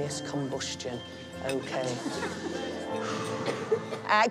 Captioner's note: heavy breath